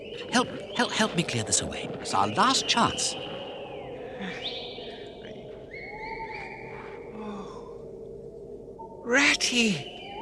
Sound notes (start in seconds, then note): 4.0 whistling continues; 7.1 Mole gasps